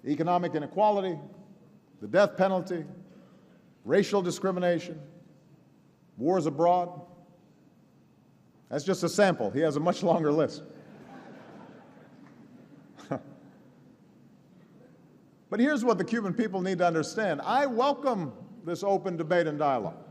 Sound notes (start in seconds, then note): 10.7 laughter